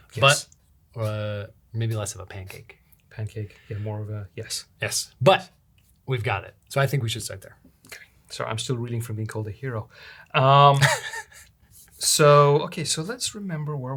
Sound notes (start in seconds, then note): 10.7 chuckles